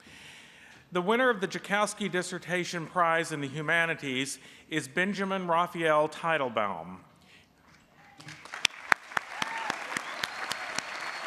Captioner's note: applause